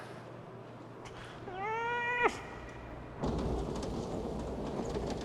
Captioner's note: Buddy yowls